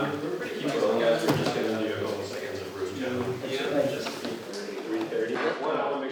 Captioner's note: crew chatting indistinctly